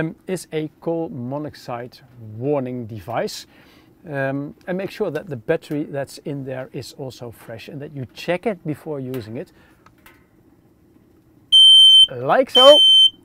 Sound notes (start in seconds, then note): 12.5 device beeping